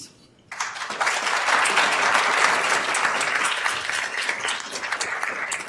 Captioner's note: attendees applauding